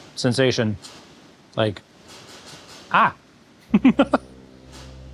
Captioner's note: laughs